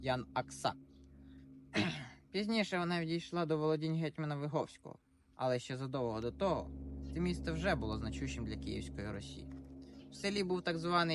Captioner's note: clears throat